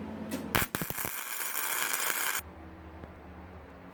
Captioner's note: welding sound